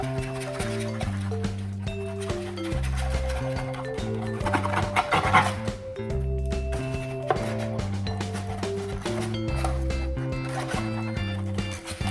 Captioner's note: crinkling foil and scraping sounds